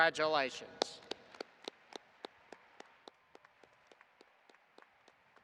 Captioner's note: audience applauding